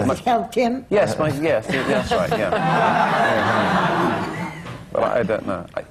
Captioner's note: laughter